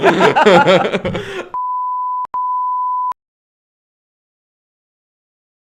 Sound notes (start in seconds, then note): 0.0 both laugh; 1.6 electronic beeping